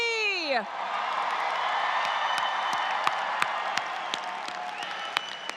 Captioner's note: audience cheers